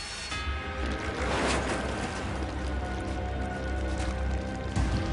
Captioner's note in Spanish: Ruido de las motocicletas